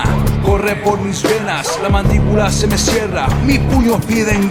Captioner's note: non-english speech